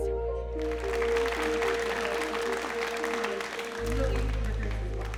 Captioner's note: audience clapping